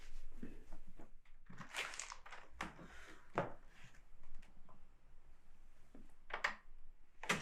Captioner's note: material rustling; plastic thudding; footsteps tapping; door creaking; door slamming